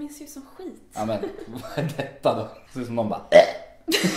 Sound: puke

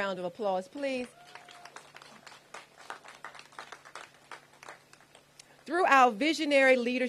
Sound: applause

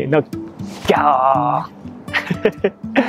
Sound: lion roar in Japanese

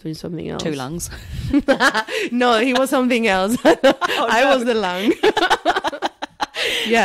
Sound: laughs

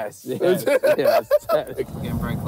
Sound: laughing

